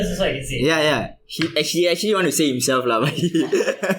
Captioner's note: hahah